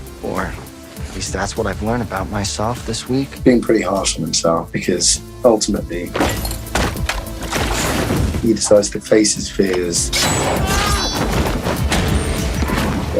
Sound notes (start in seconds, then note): 10.5 Eddie screaming; 11.0 door opening; 11.1 loud banging